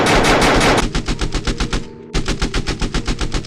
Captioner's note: gunshots